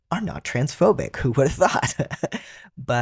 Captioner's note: laugh